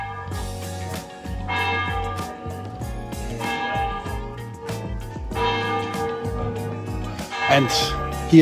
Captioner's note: bell